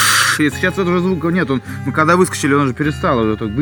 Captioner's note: hissing simulation sound